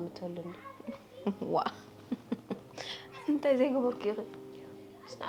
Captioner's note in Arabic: تضحك